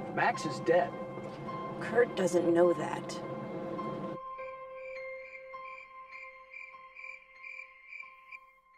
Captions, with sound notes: -Max is dead. -Kurt doesn't know that. ( Crickets Chirping )